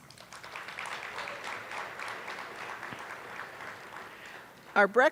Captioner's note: attendees applauding; attendees cheering